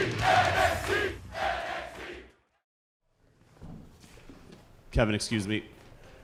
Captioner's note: fans chanting